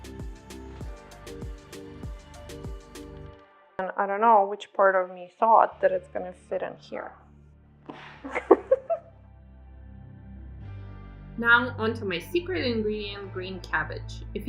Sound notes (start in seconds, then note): 0.0 upbeat music; 8.0 laughs